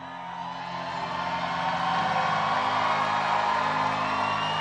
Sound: crowd cheering

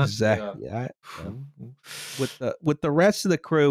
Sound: muttering; blows out a breath

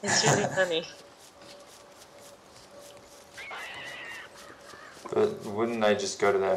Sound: laughs

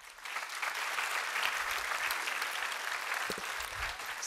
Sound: applause

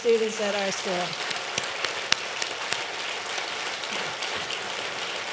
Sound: audience clapping

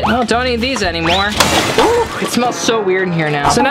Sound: crashing

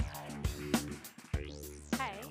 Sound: applause

